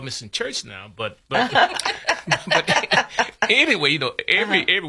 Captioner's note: laughs